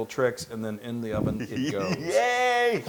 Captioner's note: laugh